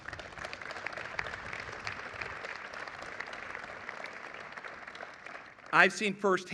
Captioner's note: applause